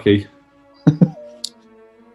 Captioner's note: giggling